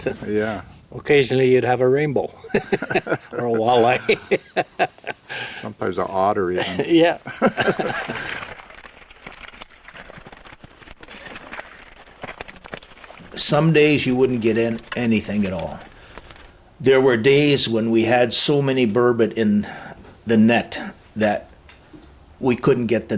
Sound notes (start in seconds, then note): 3.9 laughing; 10.3 fish flappping